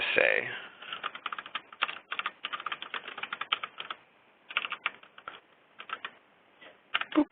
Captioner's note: keyboard typing